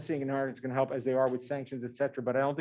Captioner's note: murmurs